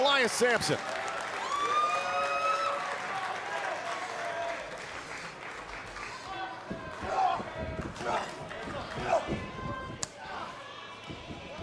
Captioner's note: crowd cheering